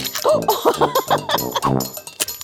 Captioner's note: laughs